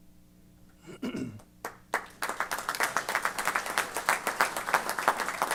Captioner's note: applause